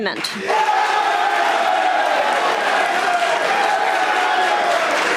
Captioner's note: audience applauding